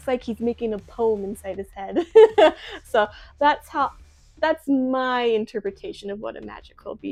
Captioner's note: laughs